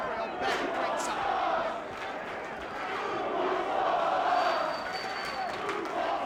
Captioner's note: crowd chanting